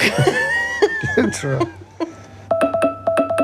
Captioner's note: both laugh